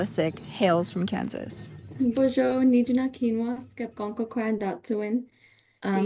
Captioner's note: speaking in Native language